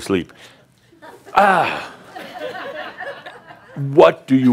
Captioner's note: some chuckles